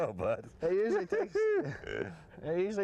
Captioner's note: laughter